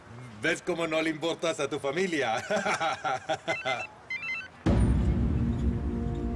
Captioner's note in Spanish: Risas; Suena teléfono